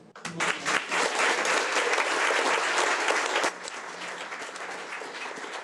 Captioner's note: audience applauding